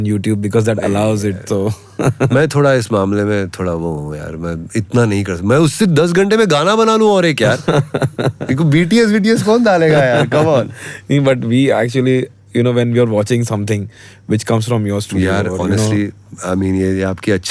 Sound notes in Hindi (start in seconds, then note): 0.8 गला साफ़ करने की आवाज़; 1.7 हंसी; 7.4 हंसी